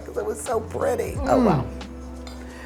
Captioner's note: grunting